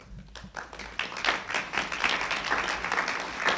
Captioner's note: applauding